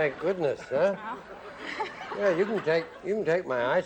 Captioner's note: laughs